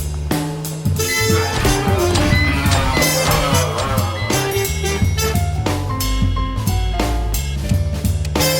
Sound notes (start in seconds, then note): 1.2 grunting, beeping; 5.3 elevator dings